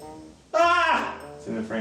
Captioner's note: annoyed lament